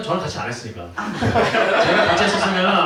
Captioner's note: laughs